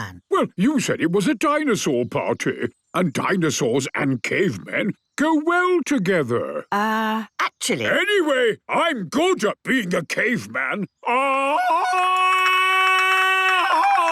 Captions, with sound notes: - Well, you said it was a dinosaur party, and dinosaurs and cavemen go well together. - Er, actually... - Anyway, I'm good at being a caveman. (Tarzan call)